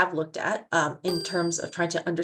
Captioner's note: bell chiming